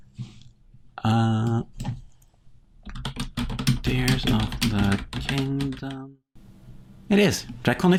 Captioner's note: typing